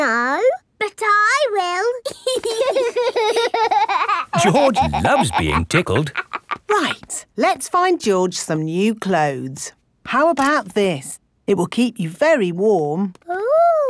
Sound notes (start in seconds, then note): 2.1 laughing